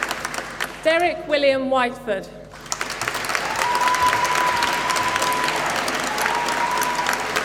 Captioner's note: applause